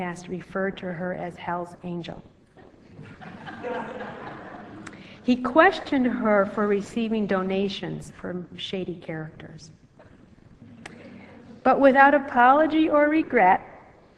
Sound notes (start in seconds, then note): 3.0 audience laughs